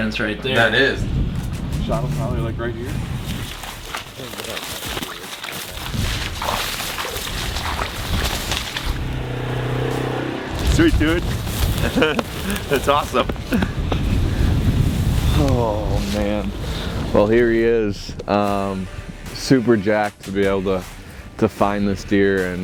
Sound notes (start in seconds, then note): 4.0 footsteps pattering; 9.4 quad bike engine revving; 11.6 chuckles